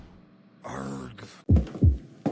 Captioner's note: scream; groan; heartbeat